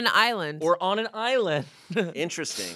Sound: laughs

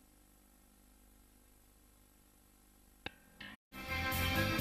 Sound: VHS static; rock music plays

